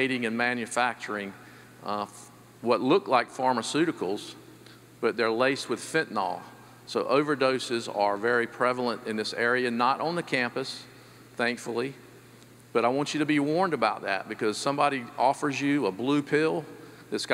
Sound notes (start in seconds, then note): none